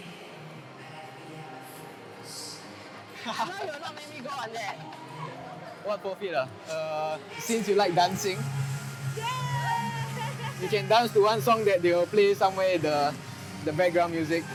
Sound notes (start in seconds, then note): 9.2 cheering